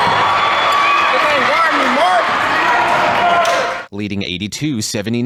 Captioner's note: crowd squealing